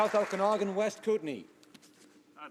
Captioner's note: some Applause